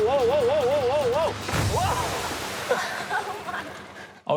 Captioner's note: laughter